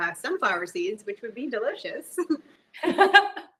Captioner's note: chuckles; laughs